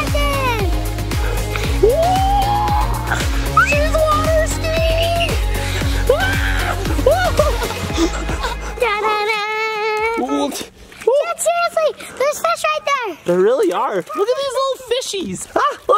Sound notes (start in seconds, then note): 6.0 yells and laughs; 10.7 grunts